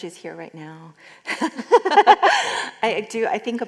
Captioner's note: laughter